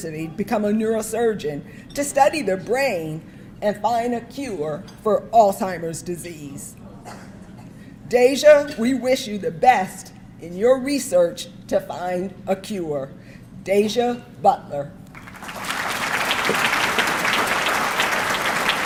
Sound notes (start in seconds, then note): 15.1 audience clapping